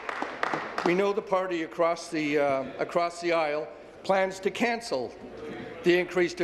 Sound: applause

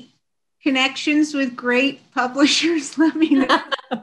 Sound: chuckles; laughing

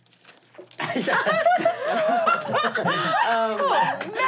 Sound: laughing

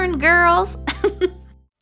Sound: laughter

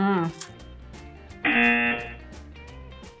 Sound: buzzer rings

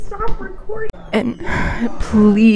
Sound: door opens

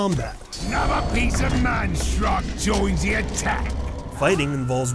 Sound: orc sounds

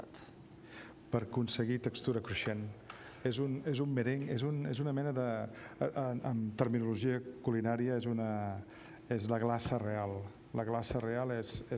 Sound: speaking catalan; speaking catalan

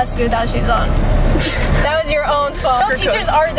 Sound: laughing

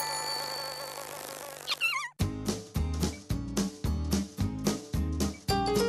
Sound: wings flutter

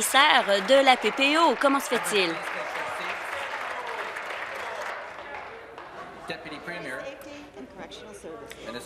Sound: applause

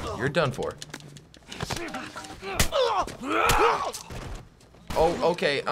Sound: Joel grunts fiercely, man groans

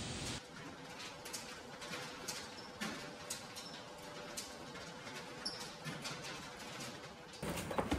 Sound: noise of rolling shutter going up

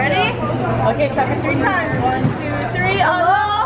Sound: tapping

